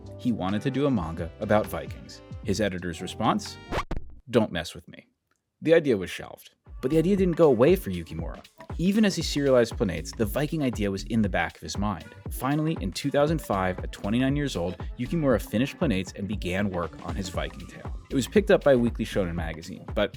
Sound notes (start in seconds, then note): 3.7 video whooshing